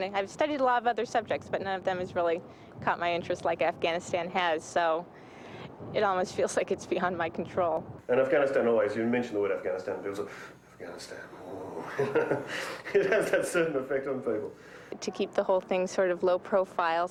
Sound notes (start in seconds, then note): 11.7 chuckling; 12.4 breathing in fast